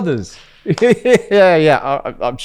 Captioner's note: laughs